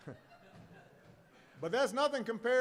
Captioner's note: laughter